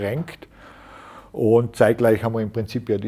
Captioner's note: sighs